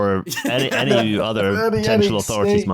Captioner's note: laughter